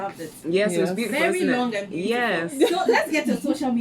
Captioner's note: laughs